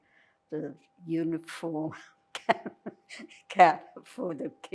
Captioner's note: laughing